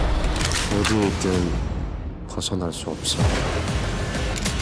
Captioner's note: upbeat dramatic music; rifle loading; foreign language; upbeat dramatic music